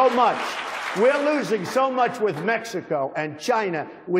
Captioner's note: applause